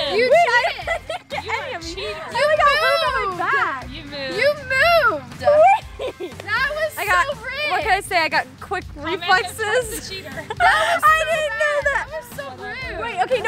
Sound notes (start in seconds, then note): 9.6 laughing